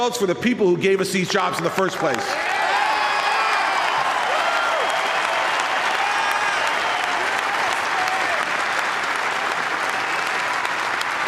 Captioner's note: applause